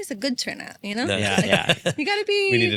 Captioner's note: laughs